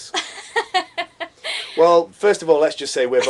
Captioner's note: laughter